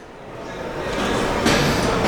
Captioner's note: machines whirring